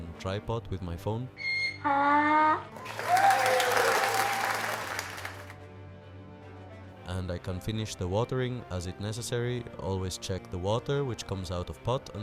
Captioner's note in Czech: Potlesk